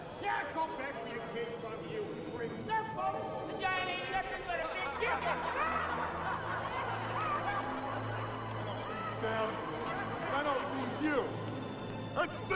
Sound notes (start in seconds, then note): 4.2 townspeople cackling; 5.5 solemn music intensifies